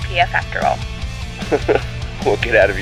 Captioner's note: chuckle